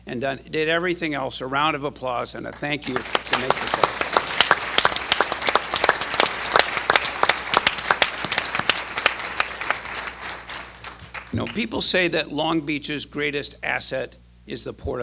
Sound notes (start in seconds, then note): 5.0 applause